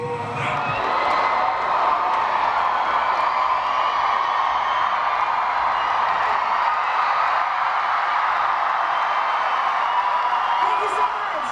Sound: cheering

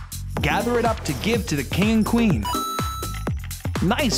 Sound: chime

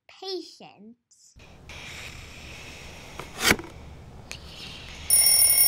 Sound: sleepy breathing; box drops; alarm clock rings

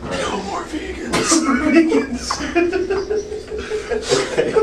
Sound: laughing

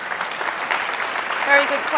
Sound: audience claps

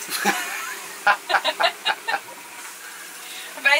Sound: laughing

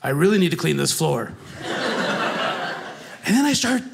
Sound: audience laughing

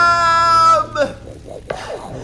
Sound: fizzle

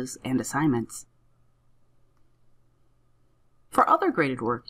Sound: silence

